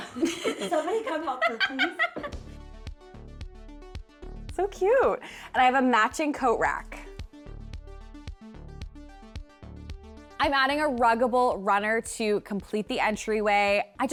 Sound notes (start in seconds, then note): 2.3 laughing; 3.7 upbeat music; 7.1 upbeat music